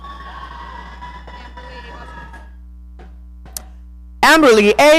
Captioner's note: audience cheering